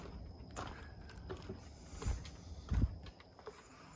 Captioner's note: footsteps tapping